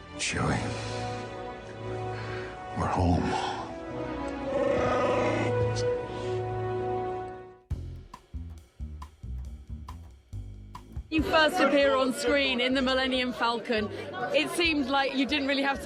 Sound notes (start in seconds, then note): 4.6 Chewy gurgling